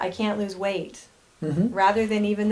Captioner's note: humming